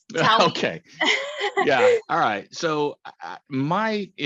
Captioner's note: laughs